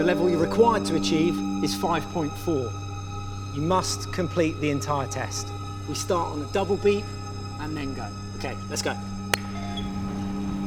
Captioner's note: hand clap